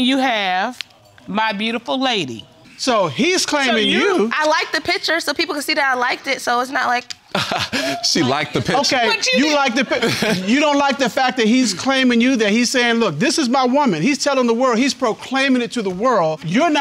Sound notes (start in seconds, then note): 7.3 laughs